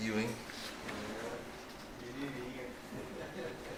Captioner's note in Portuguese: Risos